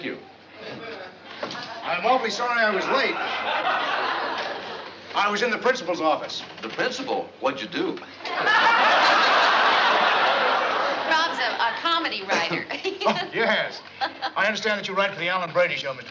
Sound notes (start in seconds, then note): 12.2 chuckles